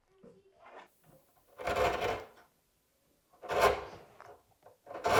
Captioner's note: wood scraping